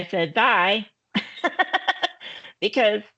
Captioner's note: laughing